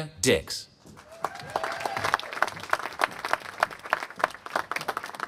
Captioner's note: applause